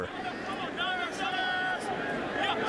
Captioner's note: shouting